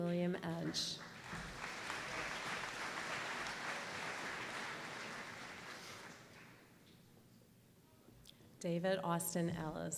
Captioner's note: applause